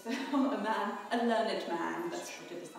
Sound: chuckles

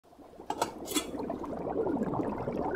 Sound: water bubbles

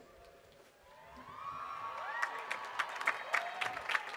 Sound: applause

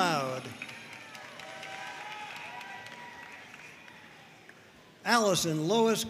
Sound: audience cheering and applauding

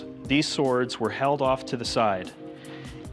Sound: none

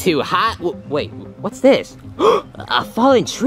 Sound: gasping

